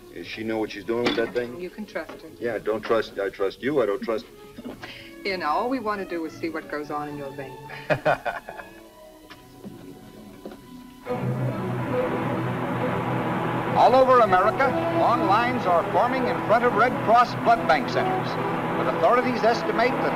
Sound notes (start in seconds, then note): 7.7 chuckles; 10.9 car engine revving; 10.9 suspenseful music; 13.4 radio Announcer